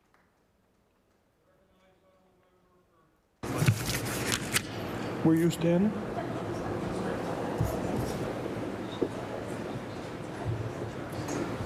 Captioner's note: applause